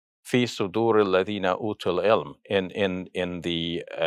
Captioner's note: speaks in Arabic